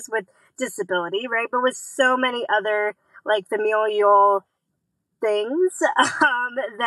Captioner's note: laughs